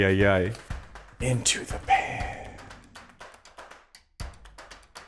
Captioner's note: whispers